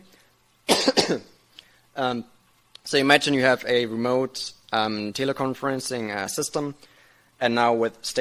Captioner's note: cough